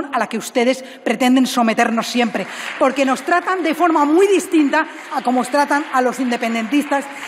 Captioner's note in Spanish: aplausos